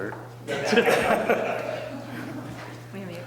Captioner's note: group laughing